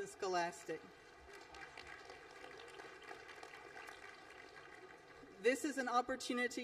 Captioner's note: applause